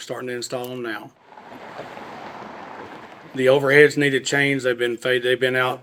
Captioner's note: traffic noise